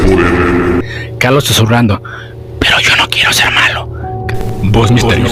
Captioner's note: whispering